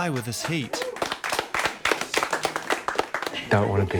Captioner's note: they applaud